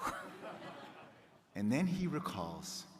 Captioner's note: crowd laughing